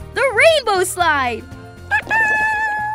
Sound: chirps

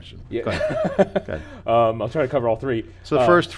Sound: laughing

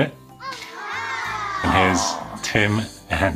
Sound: children saying wow

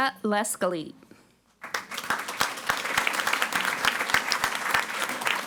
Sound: audience applauding

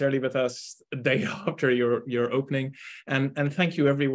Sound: chuckling

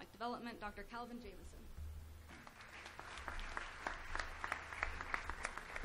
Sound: applause

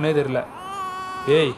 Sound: baby cries

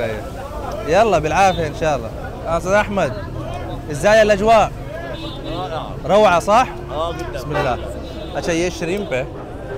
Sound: Arabic

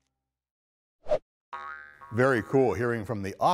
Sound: ball bounces; logo whooshes

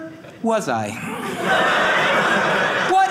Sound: audience laughing

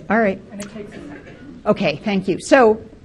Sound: talks faintly

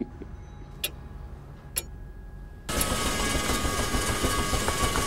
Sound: clock ticking; sound of machinery

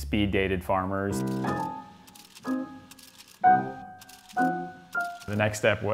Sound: bright music; camera shutter clicks

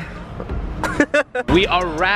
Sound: man happy laughing

